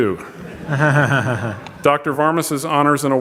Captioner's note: audience laughs